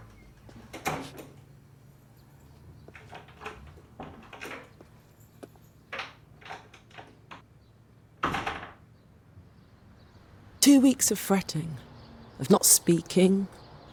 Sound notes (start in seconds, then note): 2.9 door lock rattles